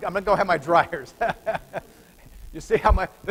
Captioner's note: laughter